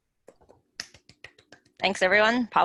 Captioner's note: clapping